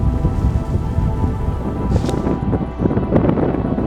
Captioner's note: wind blowing